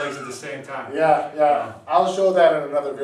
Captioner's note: chuckles